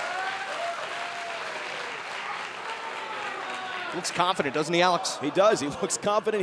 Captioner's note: cheers & applause